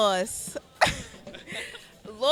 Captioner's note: laughing